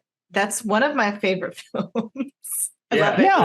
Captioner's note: chuckles